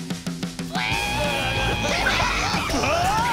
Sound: squealing; screaming

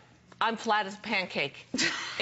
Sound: laughter

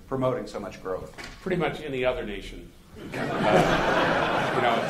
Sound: laughter

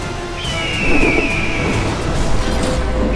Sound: birds calling

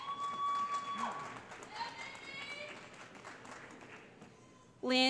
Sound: cheering

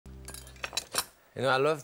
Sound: utensils clinking

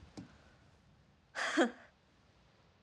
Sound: laughs

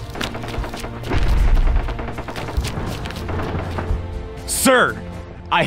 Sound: gunfire

